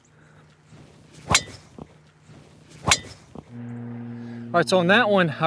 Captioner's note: golf club thwacks